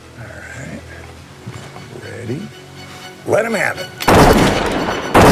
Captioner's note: gunfire